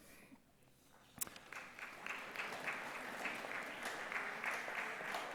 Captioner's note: audience applause